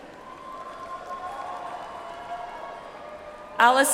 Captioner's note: audience applauds